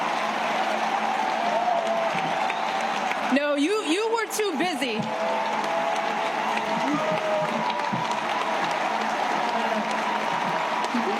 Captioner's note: cheers and applause